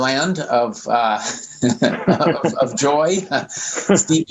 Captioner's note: laughs